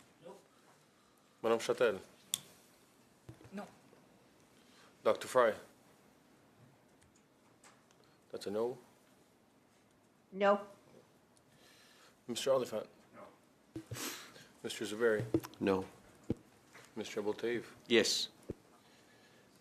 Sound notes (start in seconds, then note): 8.4 calling of recorded vote